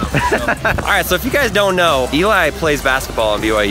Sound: laughs

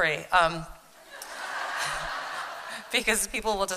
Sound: laughter

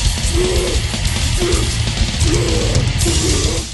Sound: giving birth sounds

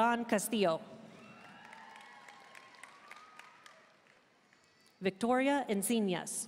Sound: audience cheering and applauding

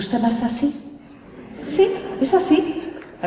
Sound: laughter

